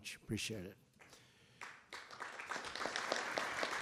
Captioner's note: applause